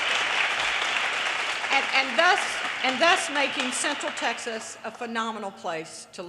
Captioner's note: audience applause